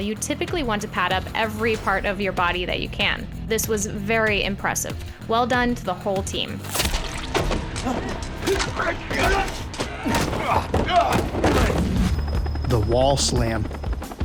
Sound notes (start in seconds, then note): 6.7 men fighting in the background; 6.7 food squishing